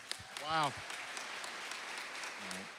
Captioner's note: applause